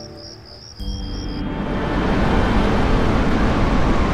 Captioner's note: waves crashing